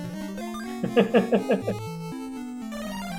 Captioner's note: chuckles